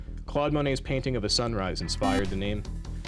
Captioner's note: beep